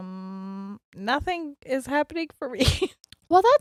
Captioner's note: chuckles